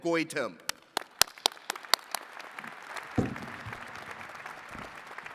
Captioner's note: attendees clapping